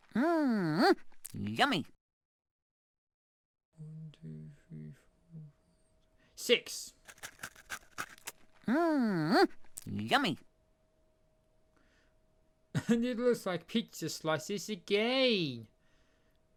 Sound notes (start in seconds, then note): 3.7 counting up quietly; 7.0 eating sound